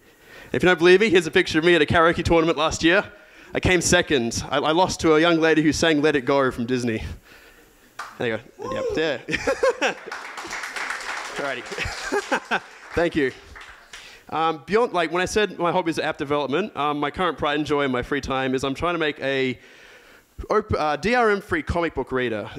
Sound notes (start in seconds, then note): 8.6 laughs; 9.6 applause; 9.9 cheers; 11.9 laughs